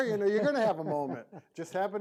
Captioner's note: laughs